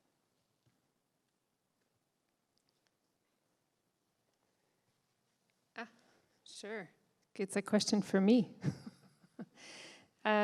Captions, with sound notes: Ah, sure, it's a question for me. [chuckles]